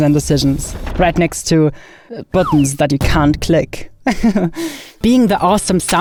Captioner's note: chuckles